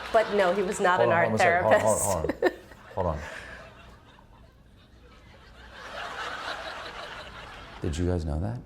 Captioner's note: laughter; laughter